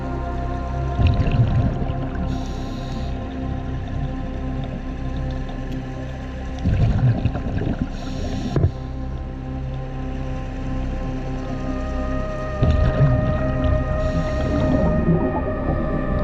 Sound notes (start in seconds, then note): 7.8 underwater sounds continue; 12.2 dramatic music continues